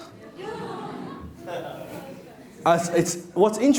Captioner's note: laughing